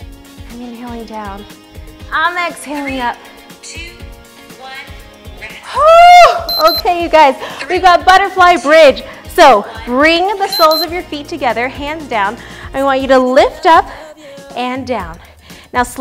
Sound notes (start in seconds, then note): 5.7 shouts; 6.5 beeps; 10.5 beeps